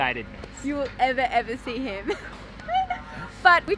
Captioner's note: laughs